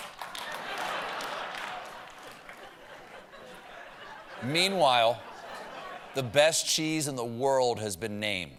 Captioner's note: laughter